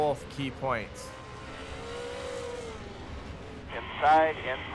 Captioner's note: truck engines revving